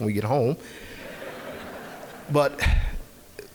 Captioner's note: audience laughing